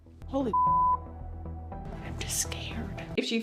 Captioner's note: tense music; beep